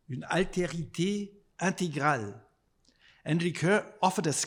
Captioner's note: speaking in foreign language